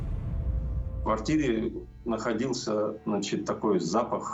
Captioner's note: speaking Russian